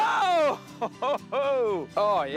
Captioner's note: laughs